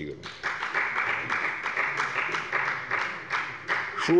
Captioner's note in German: Beifall bei der FDP